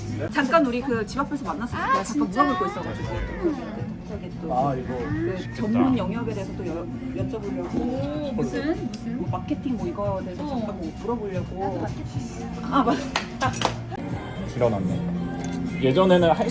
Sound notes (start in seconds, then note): 12.6 hahahahahaha